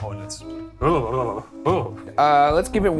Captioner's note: shivering